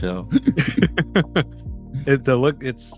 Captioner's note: laughter